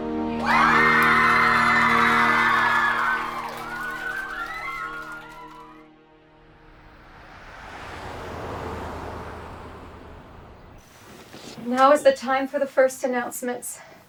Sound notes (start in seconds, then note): 0.2 campers cheering; 0.3 campers applauding; 6.1 vehicles whooshing; 6.3 birds chirping